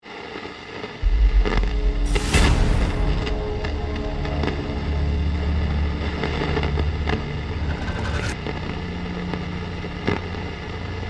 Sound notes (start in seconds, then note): 0.9 static; 5.7 suspenseful music